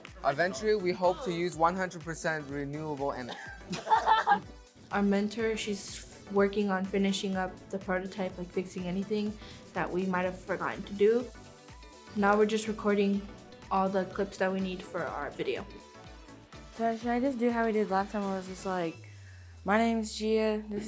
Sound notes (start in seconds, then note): 3.3 contestant laughs